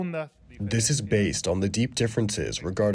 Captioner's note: through translator